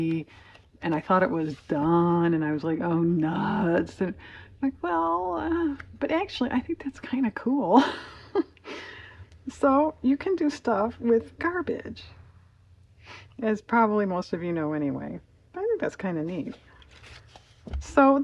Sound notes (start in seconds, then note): 7.8 laughs